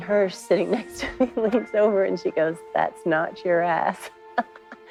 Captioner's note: laughs